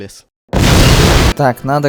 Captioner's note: ka-boom